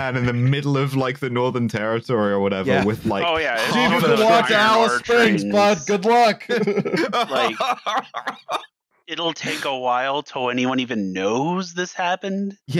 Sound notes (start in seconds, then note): 6.4 laughter